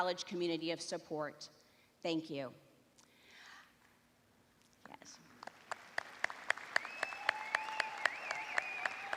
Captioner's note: applause